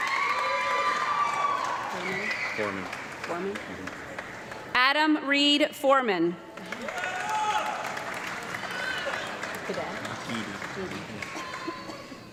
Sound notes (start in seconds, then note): 0.0 audience clapping and cheering; 6.5 audience clapping and yelling